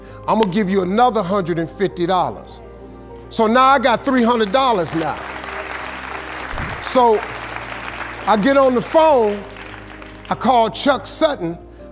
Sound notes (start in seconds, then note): 4.0 audience applauding